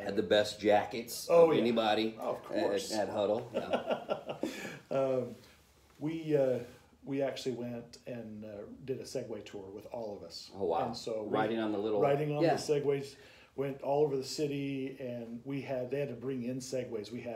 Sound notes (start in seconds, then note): 3.5 laughter